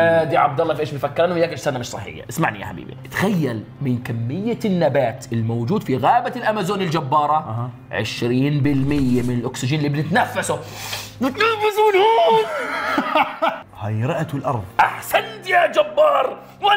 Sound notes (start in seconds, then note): 12.4 laughs